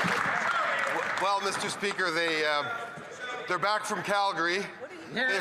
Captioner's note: some Applause